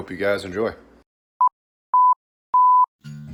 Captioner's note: beeping